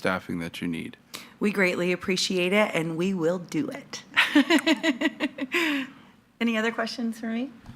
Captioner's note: laughs